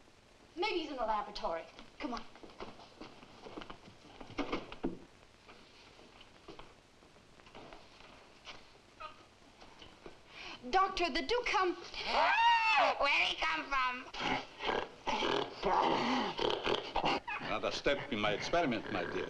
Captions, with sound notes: - Maybe he's in the laboratory. Come on. Doctor, did Duke come- - (gasps) Where'd he come from? (gorilla snorting) - Another step in my experiment, my dear.